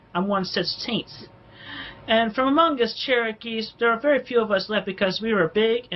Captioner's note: inhales sharply